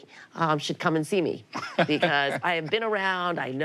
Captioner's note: laughs